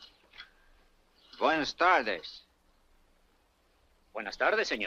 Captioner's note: Lin speaks Spanish; Juan speaks Spanish